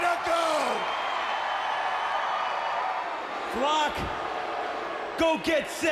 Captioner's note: crowd cheering